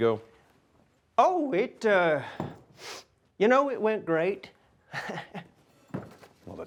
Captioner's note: chuckles